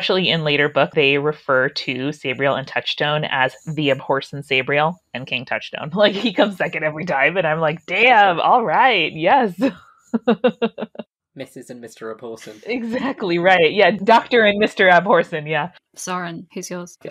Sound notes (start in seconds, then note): 9.1 laughs